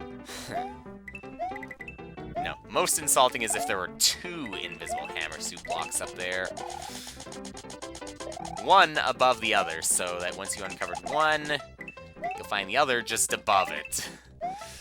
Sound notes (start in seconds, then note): 0.3 sigh; 6.8 inhaling; 14.5 inhaling